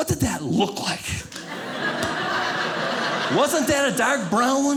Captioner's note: audience laughing